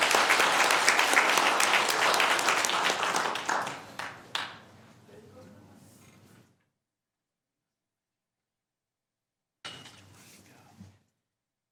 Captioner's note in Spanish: aplausos; aplausos